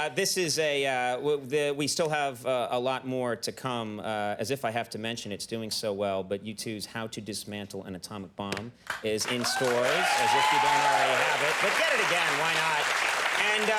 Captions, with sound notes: This is, we still have a lot more to come as if I have to mention it's doing so well, but U2's How To Dismantle An Atomic Bomb is in stores. (audience cheering) If you don't already have it but get it again why not.